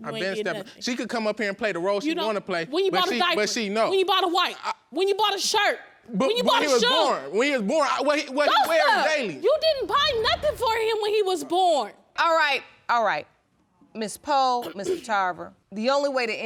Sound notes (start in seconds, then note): 8.9 screaming; 14.6 clears throat